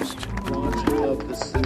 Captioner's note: clapping